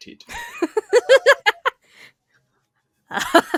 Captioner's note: laughs